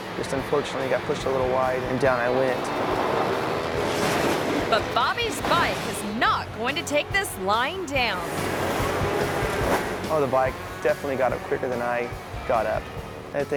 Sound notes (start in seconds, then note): 3.3 motorcycle crashing; 3.3 motorcycles revving; 8.7 motorcycle revving